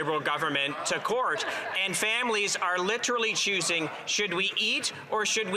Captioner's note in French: voix de l'interprète